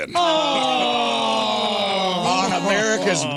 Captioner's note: all groaning